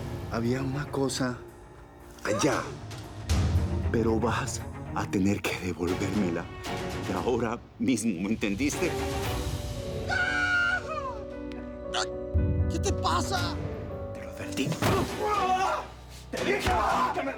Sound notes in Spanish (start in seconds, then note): 11.7 Grito; 16.6 Grito